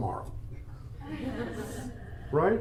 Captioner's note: attendees laugh